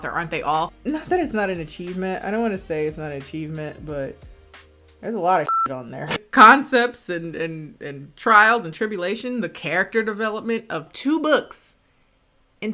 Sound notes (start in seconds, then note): 5.4 beep